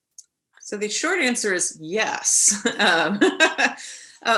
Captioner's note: chuckling